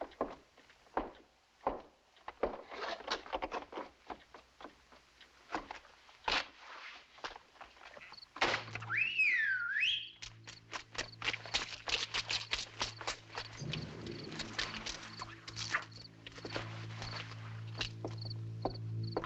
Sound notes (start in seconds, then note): 7.1 whistles